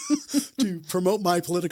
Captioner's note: both laugh